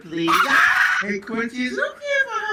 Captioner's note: dog barking